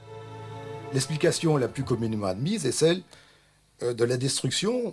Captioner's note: French spoken audio